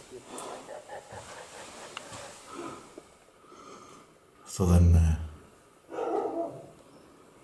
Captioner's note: evil laughing